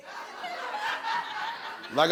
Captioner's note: audience laughs